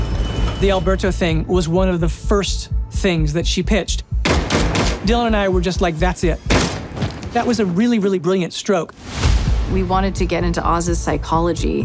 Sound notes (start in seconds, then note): 4.2 gunshots; 6.5 gunshot